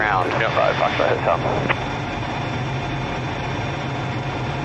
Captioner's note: engine roaring